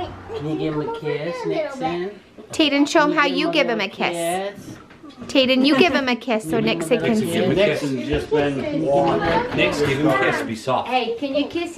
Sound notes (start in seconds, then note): 9.9 chatter